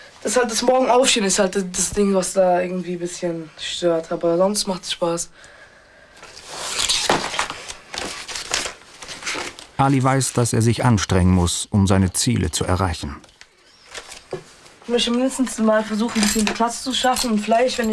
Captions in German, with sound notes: Das morgens Aufstehen ist halt das Ding, was irgendwie bisschen ... stört, aber sonst macht es Spaß. (Papier raschelt.) Ali weiß, dass er sich anstrengen muss, um seine Ziele zu erreichen. Ich möchte mindestens versuchen, die zehnte Klasse zu schaffen,